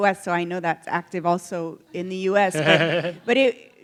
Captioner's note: laughter